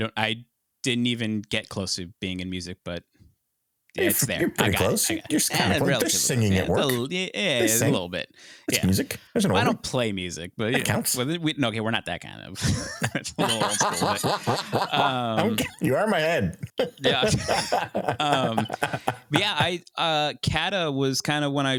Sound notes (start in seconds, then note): 12.6 laughing